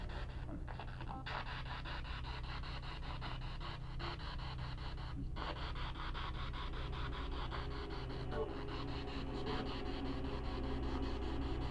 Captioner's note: radio noise from the spirit box